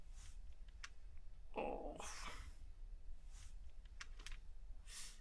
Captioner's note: moaning